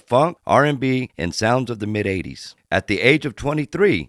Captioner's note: none